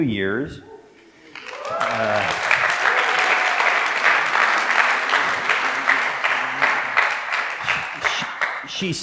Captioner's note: applause